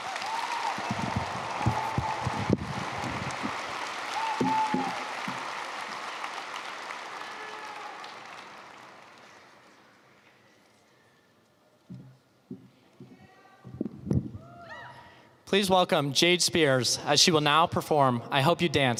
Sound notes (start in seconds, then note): 5.6 applause